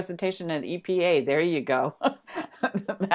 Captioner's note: laughs